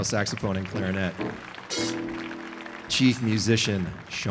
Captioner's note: audience applauding